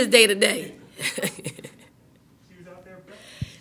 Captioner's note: laughing